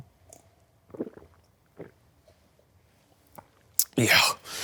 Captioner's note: gulping